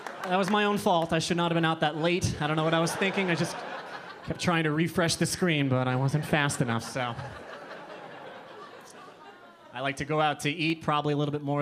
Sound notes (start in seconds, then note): 7.7 audience laughing